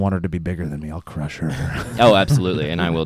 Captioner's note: chuckles